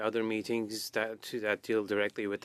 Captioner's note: speaking French